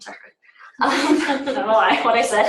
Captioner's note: laughter